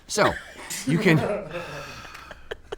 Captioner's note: and crew laugh